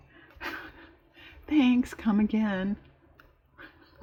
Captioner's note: laughs